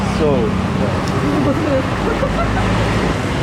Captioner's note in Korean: 웃음